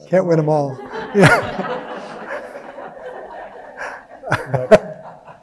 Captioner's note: audience laughing